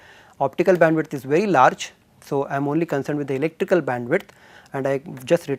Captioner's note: thermal noise